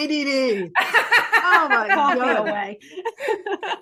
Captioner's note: laughing